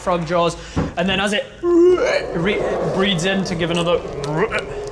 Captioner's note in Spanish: croa; ribbit